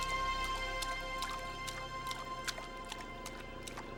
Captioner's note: water splashing